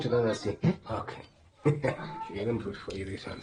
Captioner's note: chuckles